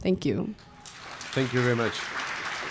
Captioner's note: applause